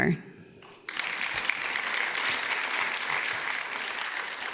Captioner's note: audience claps